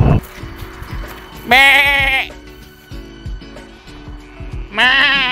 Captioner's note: some fairly impressive sheep noise